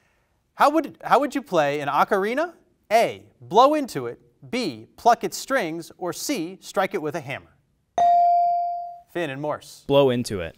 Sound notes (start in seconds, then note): 8.0 bell rings